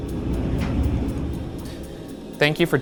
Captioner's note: clattering